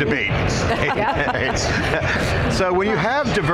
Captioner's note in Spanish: Risas